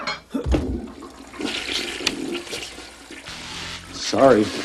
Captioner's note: light switch sound, followed by grunts; toilet flushes